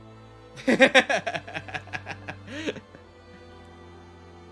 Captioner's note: laughs